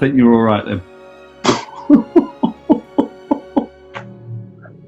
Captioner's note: chuckling